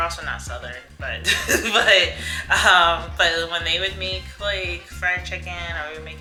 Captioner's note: laughs